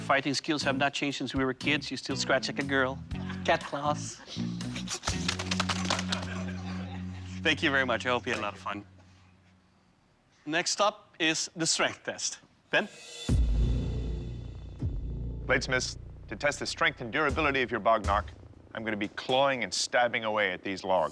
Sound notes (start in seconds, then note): 5.8 laughter